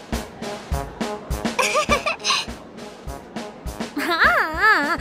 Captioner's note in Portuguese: risos